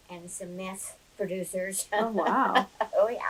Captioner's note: laughs